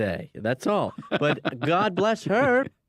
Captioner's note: chuckling